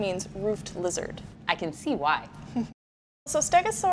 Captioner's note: chuckling